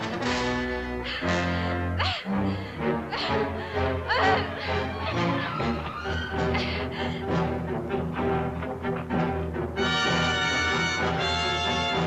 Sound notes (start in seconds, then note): 1.9 panting; 9.0 tense instrumental music continues